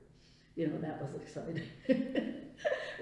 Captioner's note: laughs